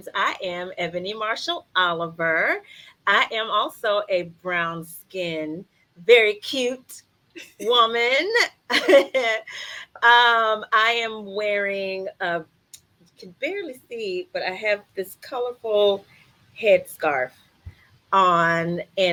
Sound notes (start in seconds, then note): 8.7 chuckles